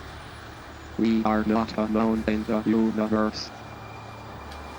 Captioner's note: computer Voice